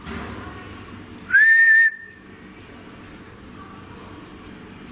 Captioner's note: whistles